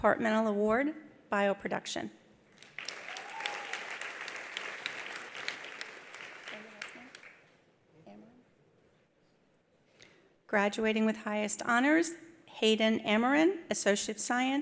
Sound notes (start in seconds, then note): 2.6 attendees applauding; 2.7 attendees cheering